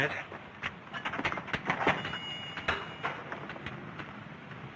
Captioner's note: bells ringing